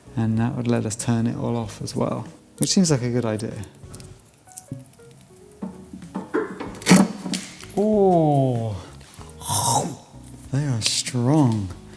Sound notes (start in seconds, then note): 6.6 cutters crunch; 9.3 crunches